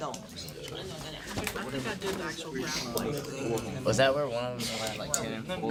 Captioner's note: students murmur